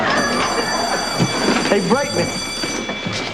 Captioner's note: bell rings